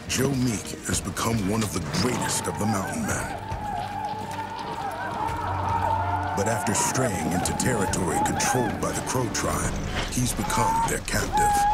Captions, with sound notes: JOE MEEK HAS BECOME ONE OF THE GREATEST OF THE MOUNTAIN MEN. [WHOOPING] BUT AFTER STRAYING INTO TERRITORY CONTROLLED BY THE CROW TRIBE, HE HAS BECOME THEIR CAPTIVE.